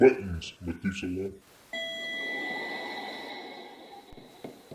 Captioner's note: elevator dings